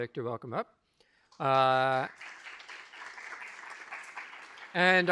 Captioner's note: applause